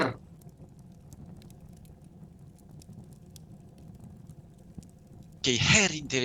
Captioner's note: fire